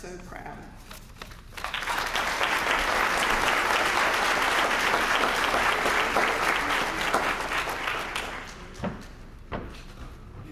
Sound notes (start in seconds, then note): 1.5 applause